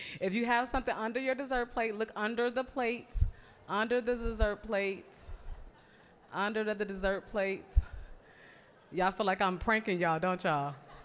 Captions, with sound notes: If you have something under your dessert plate, look under the plates, under the dessert plate, under the dessert plates. (general chatter) Y'all feel like I'm pranking y'all, don't y'all?